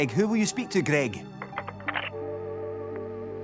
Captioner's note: phone clicks